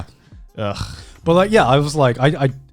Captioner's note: gags